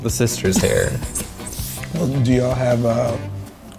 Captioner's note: laughs